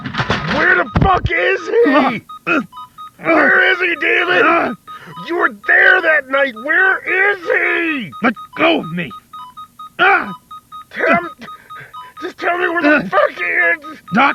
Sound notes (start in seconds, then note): 1.7 grunts; 9.9 yelps